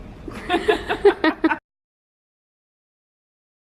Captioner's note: laughter